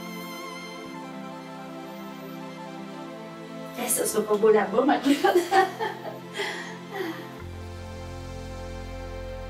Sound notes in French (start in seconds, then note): 5.0 rire